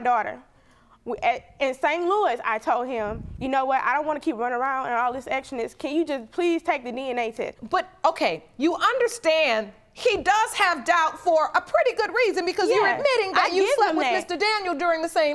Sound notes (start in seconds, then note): none